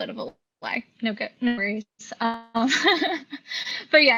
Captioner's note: laughs